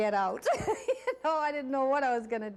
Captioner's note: laughing